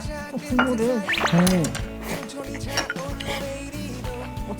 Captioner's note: slurp